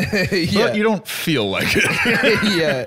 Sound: laughs

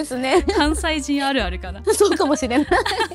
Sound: laughs

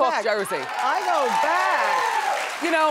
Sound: audience clapping

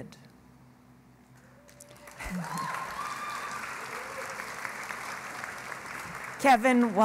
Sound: cheering and Applause

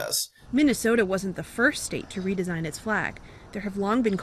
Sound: voice-over

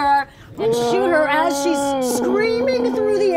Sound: monster growling

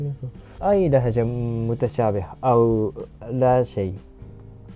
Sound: Arabic

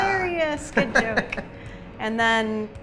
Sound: laughs

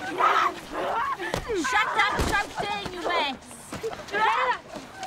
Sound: kick

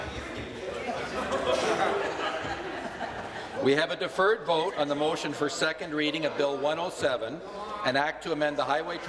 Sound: laughter

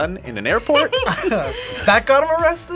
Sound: both laugh

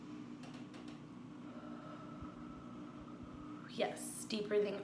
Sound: inhales heavily; exhales heavily

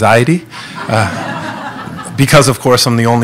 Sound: laughing

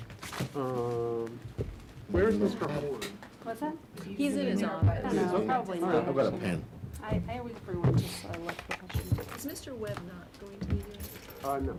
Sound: background chatter

